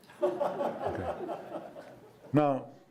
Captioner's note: audience laughing